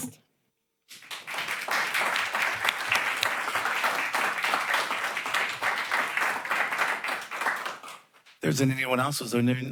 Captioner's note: applause